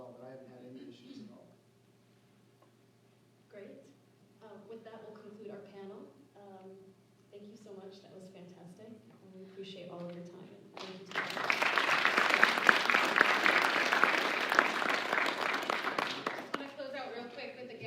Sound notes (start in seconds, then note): 10.7 applause